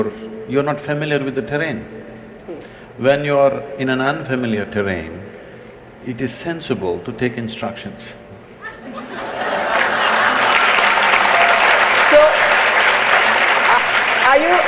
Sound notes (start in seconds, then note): 8.6 laughter/Applause